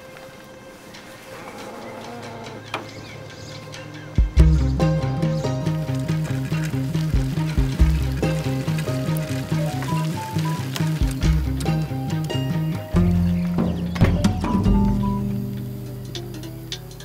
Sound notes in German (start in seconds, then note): 4.3 Spannungsvolle Musik; 9.3 Handyklingeln